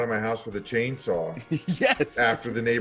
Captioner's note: laugh